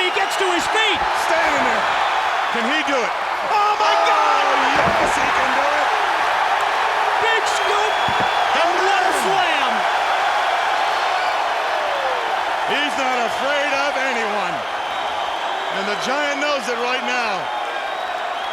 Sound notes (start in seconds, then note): 6.1 crowd cheering; 9.9 crowd cheering continues; 18.3 crowd cheering continues